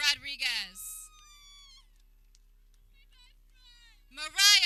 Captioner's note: people cheering